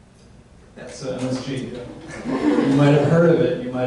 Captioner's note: audience laughs